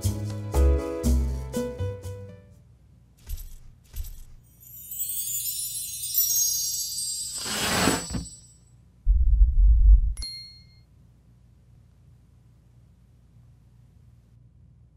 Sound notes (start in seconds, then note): 3.0 enlarging sound; 3.2 stomp